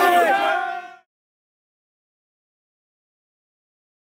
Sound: everyone cheering

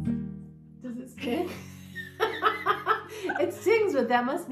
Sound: laughter

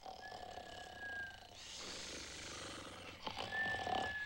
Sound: snoring

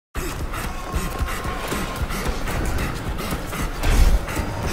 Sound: man panting

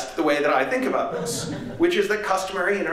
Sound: laughter

